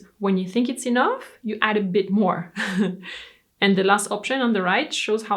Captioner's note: laughs